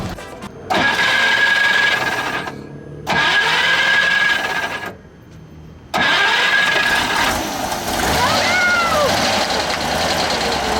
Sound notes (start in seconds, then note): 0.0 short revving; 6.1 motor revving